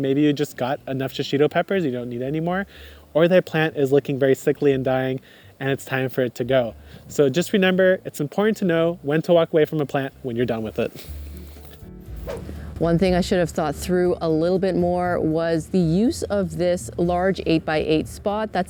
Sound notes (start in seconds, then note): 11.3 light music continues; 12.0 air whooshing